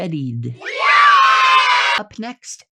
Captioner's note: children cheering